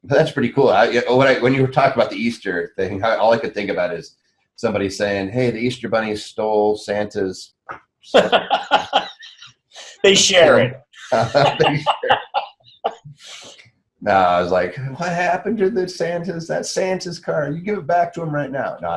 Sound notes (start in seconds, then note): 8.1 laughs; 12.7 laughs